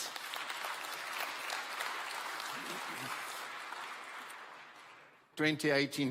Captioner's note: applause